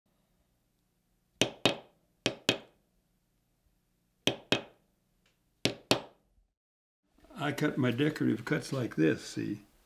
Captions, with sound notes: (hammer tapping) - I cut my decorative cuts like this, see.